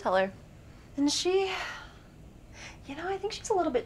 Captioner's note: sighs